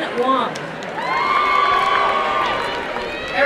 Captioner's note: applause and cheering